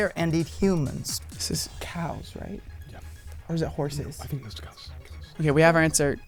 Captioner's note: wispering